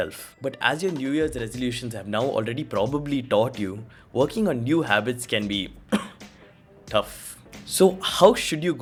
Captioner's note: cough